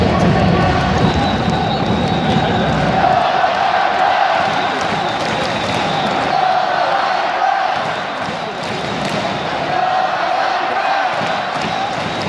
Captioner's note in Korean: 짝짝 짜자작